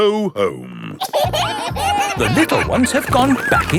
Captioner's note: kids giggling